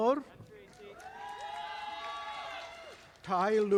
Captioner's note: audience applauding